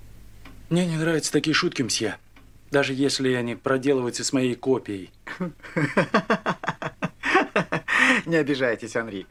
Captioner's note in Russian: смех